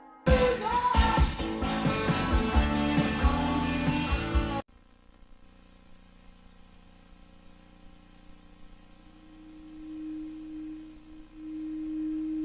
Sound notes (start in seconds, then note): 0.1 rock music playing; 4.3 VHS static